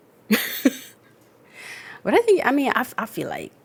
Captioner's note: laughs